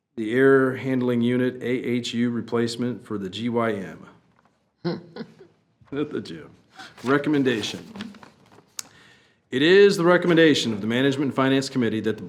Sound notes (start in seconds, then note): 4.8 chuckles